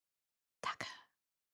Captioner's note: whispers